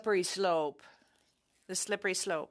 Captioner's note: speaking French